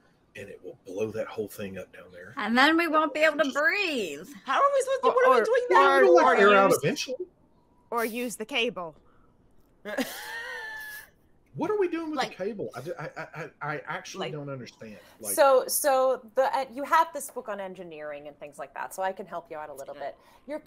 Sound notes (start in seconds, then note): 9.8 Fairuza laughs